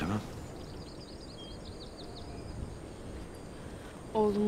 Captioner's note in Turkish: Kuş cıvıltısı sesleri